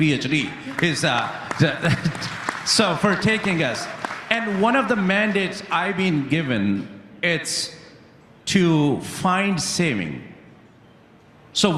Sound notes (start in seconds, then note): 4.5 applause